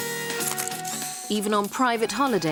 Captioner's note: camera clicks